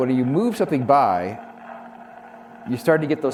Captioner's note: electronic static